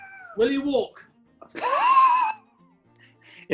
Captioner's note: sniggering